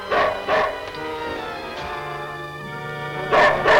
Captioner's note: desperate orchestral music; Devil barks